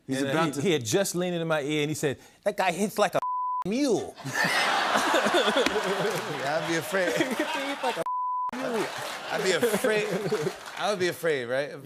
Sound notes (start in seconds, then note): 4.2 laughter